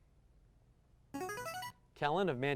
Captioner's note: buzzer